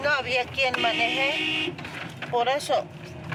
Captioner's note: car horn honking; speaking in foreign language